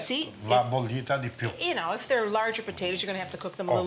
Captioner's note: speaking Italian